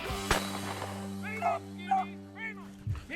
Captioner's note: gun fires